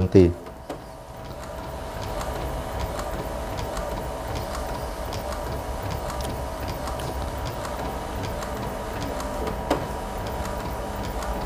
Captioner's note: printer machine noise